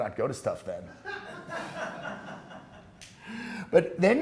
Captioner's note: class laughing